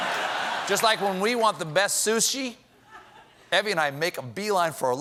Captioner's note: laughter